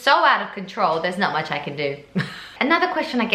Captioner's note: laughs